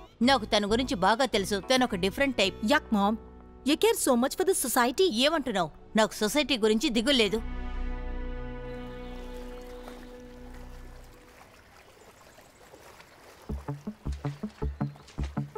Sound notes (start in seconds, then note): 8.7 wading in water